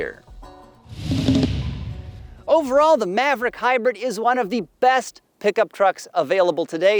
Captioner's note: car whooshing